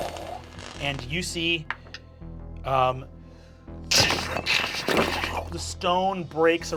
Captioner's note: crumbling